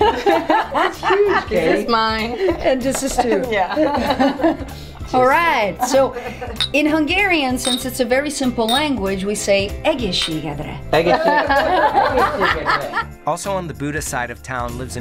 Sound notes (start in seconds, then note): 0.0 laughing; 3.1 laughing; 7.4 glasses clinking; 10.6 stammering; 11.0 laughing